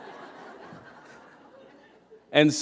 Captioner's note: laughter